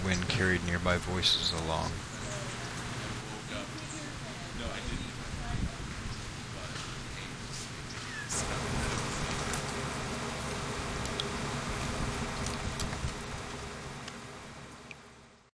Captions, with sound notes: carried nearby voices along. (people talking faintly, bird sounds) (water dripping)